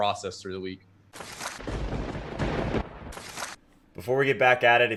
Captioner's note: thunder cracking